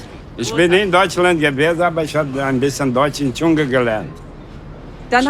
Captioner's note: speaks with an accent